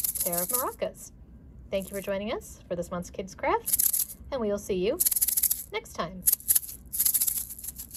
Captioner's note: rattles; rattle; rattle rattle!